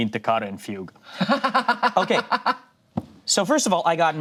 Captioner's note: laughs